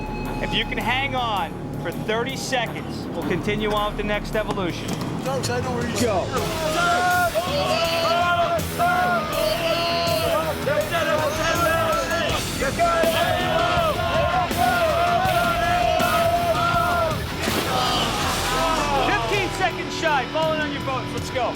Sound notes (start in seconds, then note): 6.4 students yelling